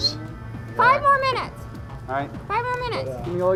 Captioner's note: voiceover